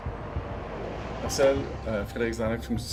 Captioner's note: traffic rumbling